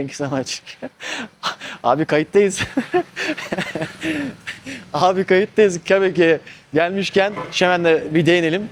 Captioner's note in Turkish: kahkaha